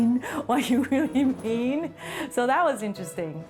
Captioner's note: chuckles